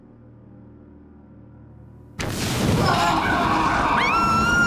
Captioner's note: screaming